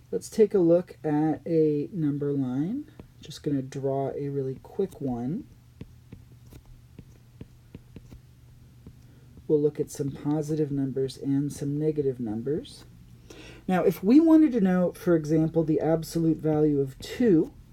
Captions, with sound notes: Let's take a look at a number line. Just going to draw a really quick one. [ Writing ] We'll look at some positive numbers and some negative numbers. Now, if we wanted to know, for example, the absolute value of 2,